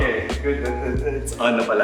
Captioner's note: stutters